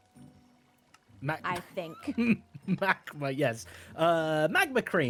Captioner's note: laughs